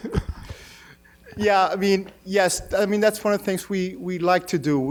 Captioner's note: laughs